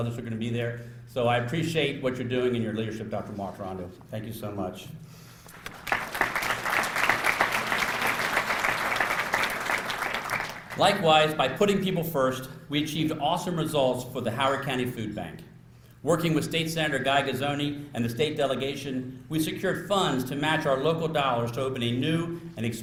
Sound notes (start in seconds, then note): 5.5 applause